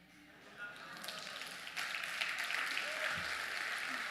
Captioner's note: applause